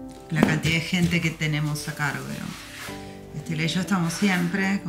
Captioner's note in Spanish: sonido de fratacho sobre pared